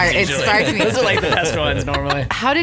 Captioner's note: group laughing